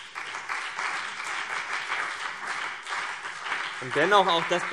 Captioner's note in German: Beifall CDU und BÜNDNIS 90/DIE GRÜNEN